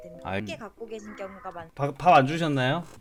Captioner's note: meow~